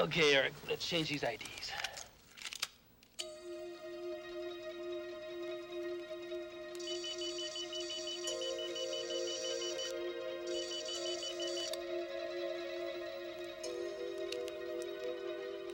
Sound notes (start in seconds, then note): 3.5 dramatic music; 7.1 machine beeping